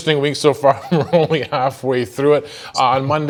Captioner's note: chuckling